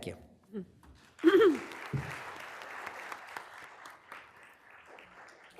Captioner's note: applause